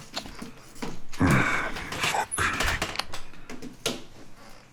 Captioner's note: groans